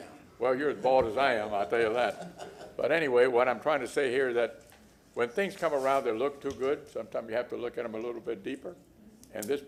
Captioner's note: laughter